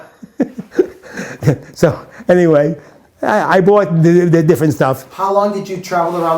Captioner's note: laughs